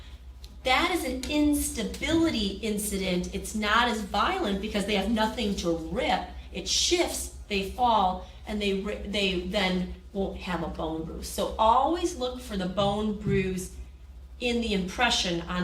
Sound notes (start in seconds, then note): none